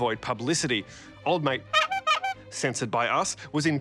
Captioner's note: horn sounds